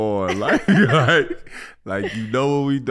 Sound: Iman and Amber laughing

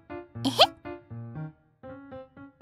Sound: sigh

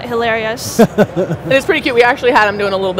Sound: laughs

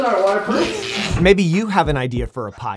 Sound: static

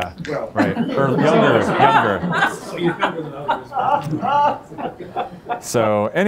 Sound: laughter

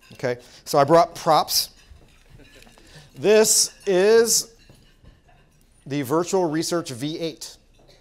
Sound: laugh

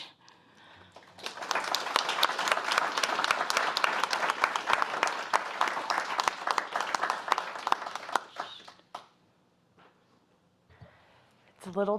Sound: applause

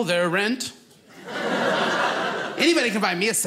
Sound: audience laughing

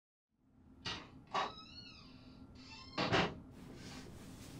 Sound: door opens, shuts

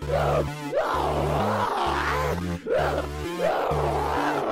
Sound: insane screaming

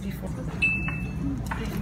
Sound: phone Dings

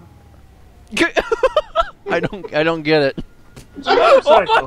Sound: laughs

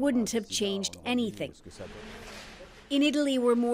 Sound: speaking French

